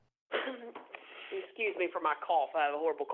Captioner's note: coughs